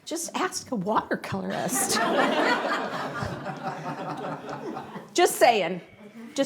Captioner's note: audience laughs